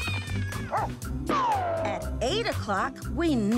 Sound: meow; barking

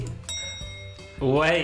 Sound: chiming

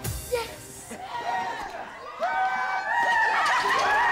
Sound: cheering

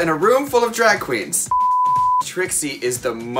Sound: beep

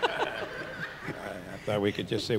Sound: everyone laughs

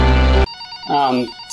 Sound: phone rings

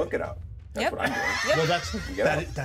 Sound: speaker laughs

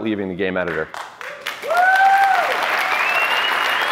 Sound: applause

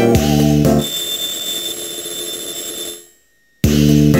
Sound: riing

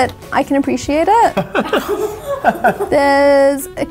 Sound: all chuckle

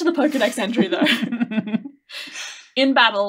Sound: laughing

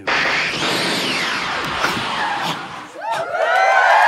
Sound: futuristic whirring; cheering

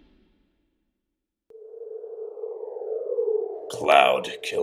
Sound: wind

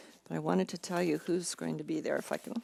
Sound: none

